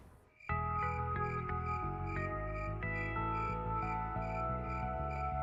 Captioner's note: crickets chirping